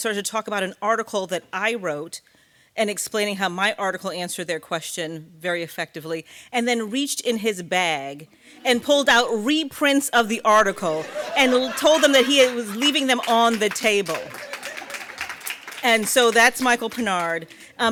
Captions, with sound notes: started to talk about an article that I wrote, and explaining how my article answered their question very effectively, and then reached in his bag and pulled out reprints of the article, (audience laughing) and told them that he was leaving them on the table. (audience applauding) And so that's Michael Pinard.